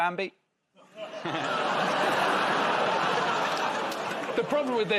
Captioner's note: audience groans